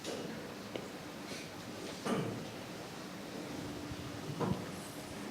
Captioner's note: projector whirring